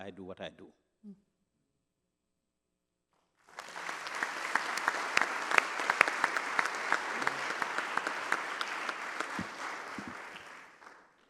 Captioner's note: applause